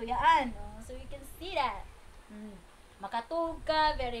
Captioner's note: with an accent